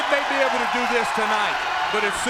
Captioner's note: crowd cheering